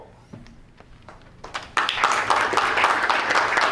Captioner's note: clapping